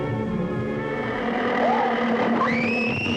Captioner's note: screams